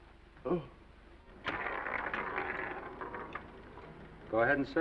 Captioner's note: dice clattering